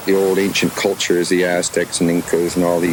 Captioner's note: wave sounds